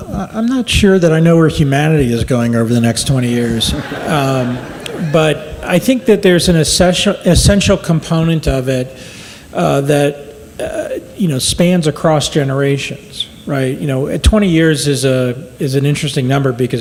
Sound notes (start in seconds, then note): 3.1 audience laughs